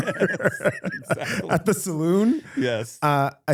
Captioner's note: both Laughing